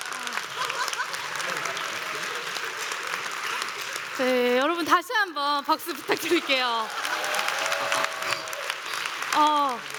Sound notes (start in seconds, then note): 5.9 applause and cheers